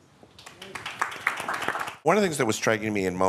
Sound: audience clapping

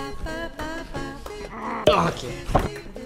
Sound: constipation noises

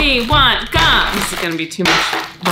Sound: gum landing on table

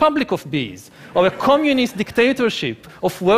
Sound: laughing

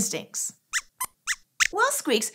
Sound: squeaks squeaks

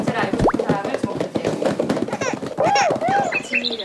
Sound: crying

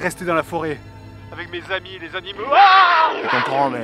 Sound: roar

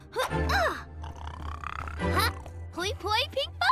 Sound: continues snoring

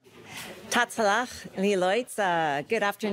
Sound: speaking foreign language

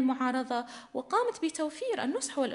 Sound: in arabic

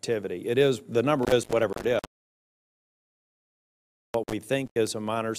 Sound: audio cuts out

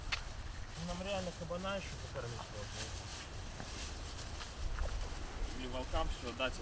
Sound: men speaking in foreign language

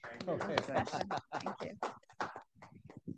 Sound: laughs; audience applauds

